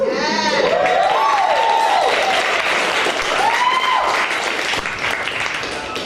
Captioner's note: audience cheering and applauding